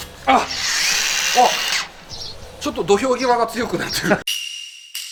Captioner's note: laughs